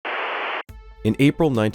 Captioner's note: static